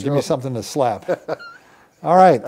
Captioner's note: laughs